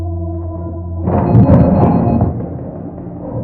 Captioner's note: door entry beeps